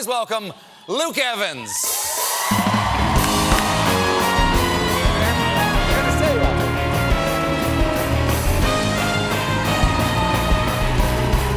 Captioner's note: applause